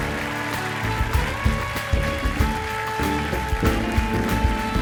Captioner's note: applause